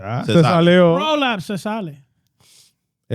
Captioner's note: speaking In Foreign Language